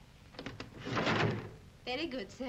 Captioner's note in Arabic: ضجيج المكتب